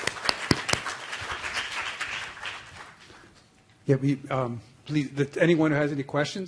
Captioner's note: applause